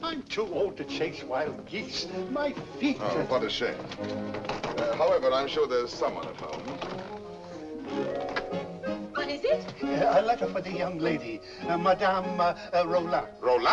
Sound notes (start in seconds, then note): 4.3 knocking on door; 7.8 door opens